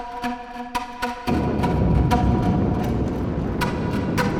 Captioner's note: hollow, percussive music; deep rumbling